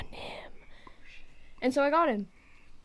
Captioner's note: whispers